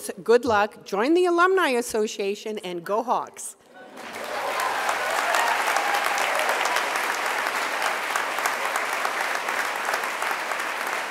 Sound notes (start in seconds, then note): 3.8 audience applause